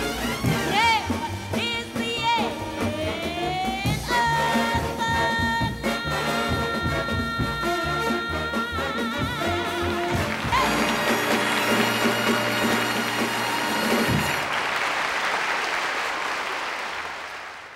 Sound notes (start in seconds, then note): 10.1 crowd cheering